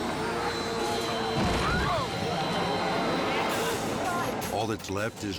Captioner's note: jet ski thuds